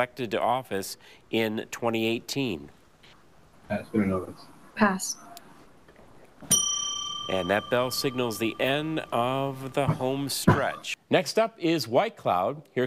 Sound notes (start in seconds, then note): 6.4 bell dings